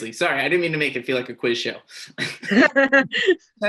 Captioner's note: laughing